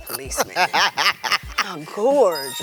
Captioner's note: laughs